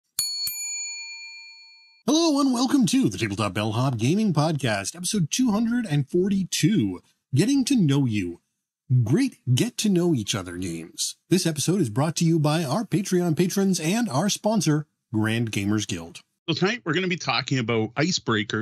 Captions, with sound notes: (bell dings) Hello and welcome to the Tabletop Bellhop gaming podcast, episode 242, "Getting to Know You." Great, get to know each other games. This episode is brought to you by our Patreon patrons and our sponsor, Grand Gamers Guild. So tonight we're gonna be talking about icebreakers